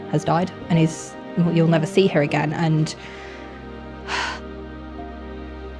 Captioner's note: sigh